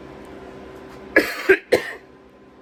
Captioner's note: coughs again